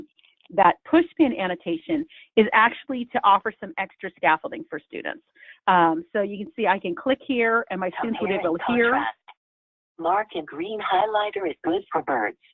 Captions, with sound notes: That push pin annotation is actually to offer some extra scaffolding for students. So you can see I can click here and my students are able to compare (computer speaking) Mark, and green highlighter is blue for birds